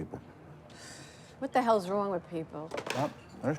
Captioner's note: sighs